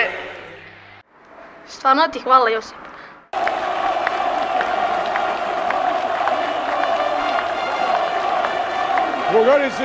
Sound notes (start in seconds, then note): 6.2 mass chanting